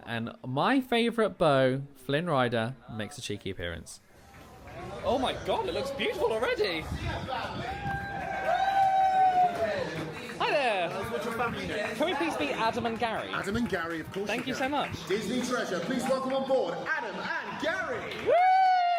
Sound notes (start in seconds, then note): 8.3 crowd cheers; 18.7 crowd cheers and applauds